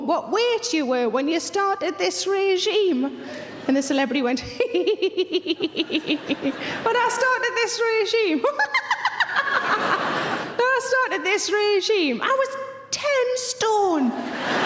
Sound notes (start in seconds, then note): 4.6 laughing; 8.4 laughing